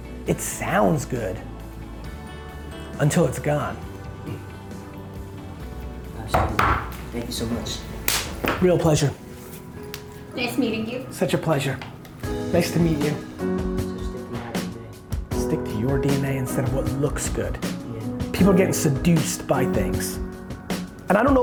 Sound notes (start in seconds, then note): 6.3 knocking; 13.5 upbeat music